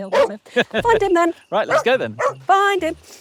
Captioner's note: Amber barking